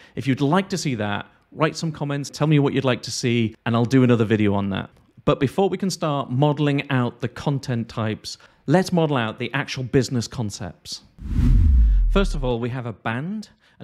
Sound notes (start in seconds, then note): 11.2 whooshing